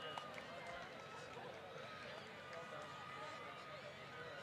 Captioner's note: applause